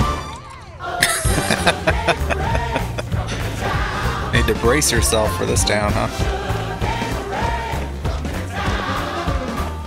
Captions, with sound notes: [Laughing] Need to brace yourself for this town, huh?